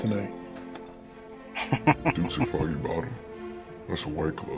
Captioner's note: chuckling